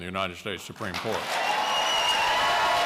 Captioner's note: cheering and applause